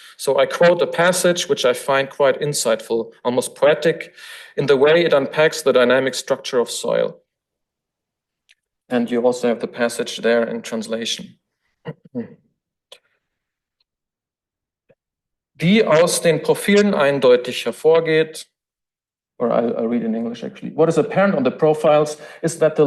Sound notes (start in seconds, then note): 11.8 throat clearing; 15.7 foreign language